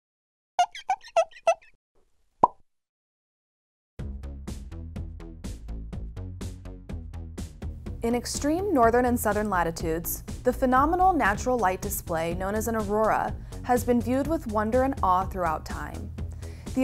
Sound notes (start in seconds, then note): 0.6 squeaking; 2.4 pop